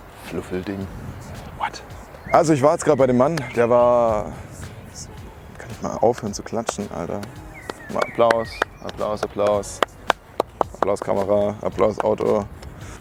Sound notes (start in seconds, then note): 4.0 clap